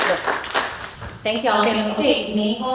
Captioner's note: applause